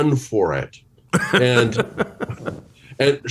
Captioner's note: chuckles